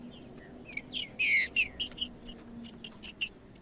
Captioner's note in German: trinca ferro cantando